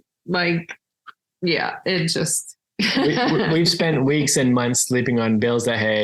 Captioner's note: laughs